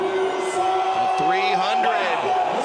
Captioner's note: crowd Cheers